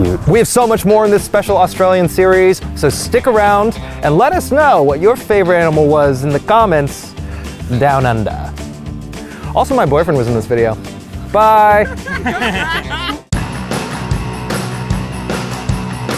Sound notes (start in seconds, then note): 11.7 laughing; 13.6 rock music